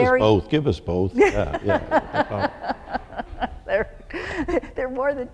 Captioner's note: laughter